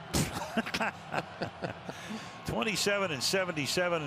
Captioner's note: laughter